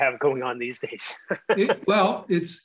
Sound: chuckling

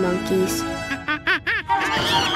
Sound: chattering

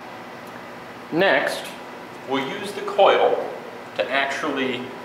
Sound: voiceover

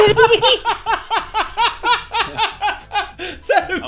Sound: even more laughing

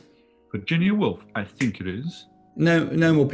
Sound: clicks finger

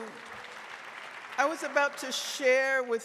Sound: audience applauding

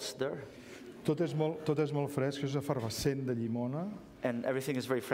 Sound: speaking catalan

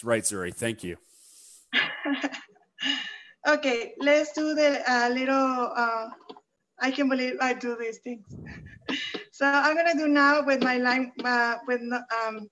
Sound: laughs

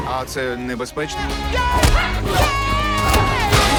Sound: woman grunting

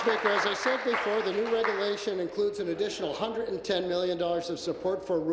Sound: applause

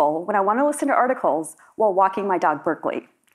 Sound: none

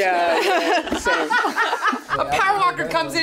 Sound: everyone laughs

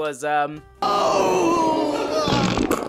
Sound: groaning; pooping noises

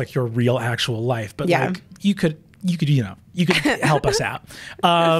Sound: laughs

